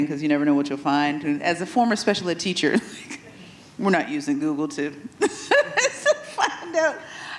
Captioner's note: laughs